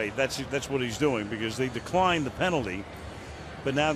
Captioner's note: none